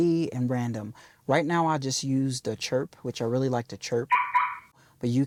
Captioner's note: chirp sound